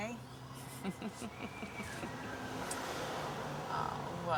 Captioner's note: laughing